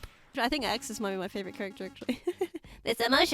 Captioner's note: laughs